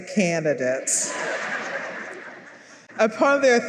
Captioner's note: laughter